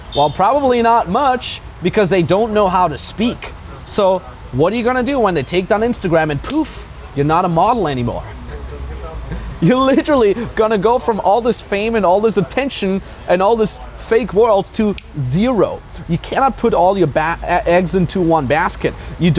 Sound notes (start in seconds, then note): 6.4 hands slap; 9.2 giggles; 14.9 fingers snap